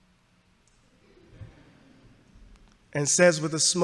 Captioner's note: audience laughs